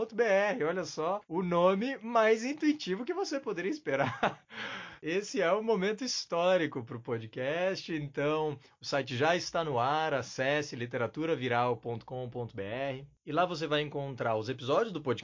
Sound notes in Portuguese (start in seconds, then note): 3.9 risos